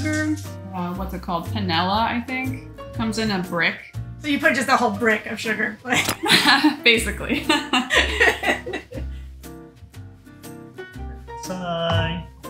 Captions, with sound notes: What's it called? Panela, I think comes in a brick. - So you put just the whole brick of sugar. - (chuckles softly) basically. - Set it aside.